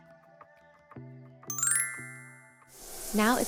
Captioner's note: soft upbeat music; bells chiming